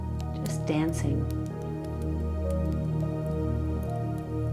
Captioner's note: fire crackling; mellow music